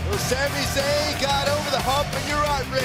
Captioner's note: crowd cheering